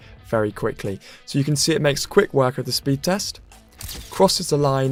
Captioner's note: camera snap noise